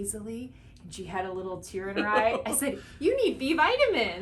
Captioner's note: laughs